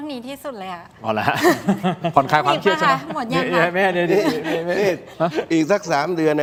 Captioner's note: laughs